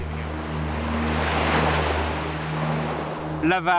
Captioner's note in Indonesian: suara ombak